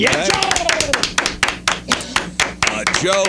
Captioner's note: clapping